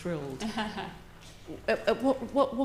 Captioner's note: laughs